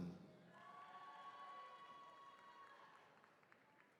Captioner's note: attendees cheering